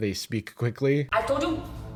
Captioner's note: asian" "accent